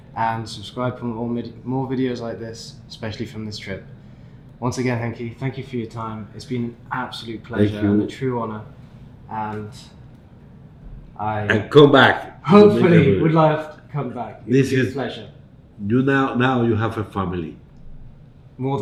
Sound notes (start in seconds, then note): 10.1 voice shakes